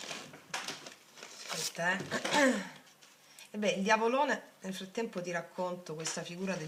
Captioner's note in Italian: schiarire la voce